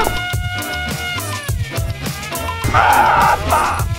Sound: grunting noises

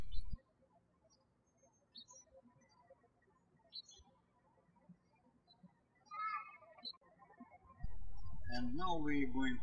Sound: birds chirping

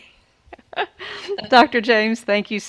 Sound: laughs

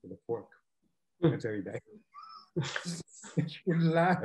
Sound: laughs

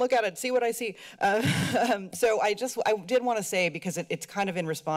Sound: laughs

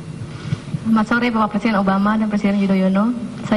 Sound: non-english speech

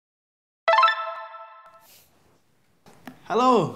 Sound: phone rings

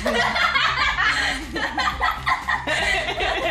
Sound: laughing

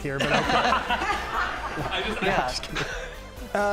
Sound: all laughing

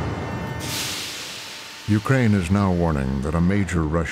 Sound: train hisses

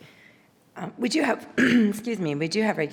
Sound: coughs

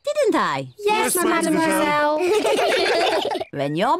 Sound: all laugh

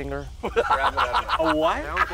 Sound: laughing

